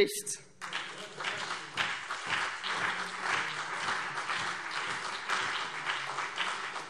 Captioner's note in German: Beifall CDU und BÜNDNIS 90/DIE GRÜNEN